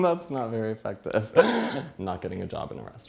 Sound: laughs

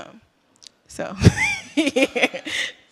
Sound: laughter

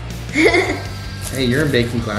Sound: chuckles

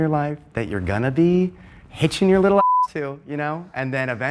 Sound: beep

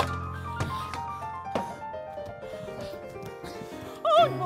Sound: pot crashing

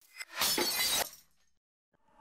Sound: shattering Noise

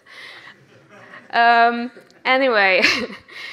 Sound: audience laughs; laughs

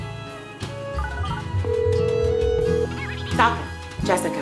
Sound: phone beeping and ringing

